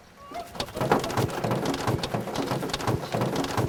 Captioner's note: rain clattering